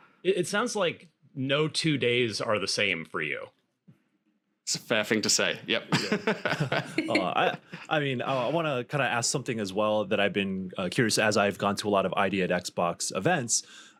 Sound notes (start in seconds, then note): 5.7 everyone laughing